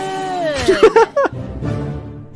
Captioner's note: laughs